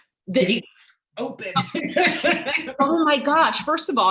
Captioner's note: laughing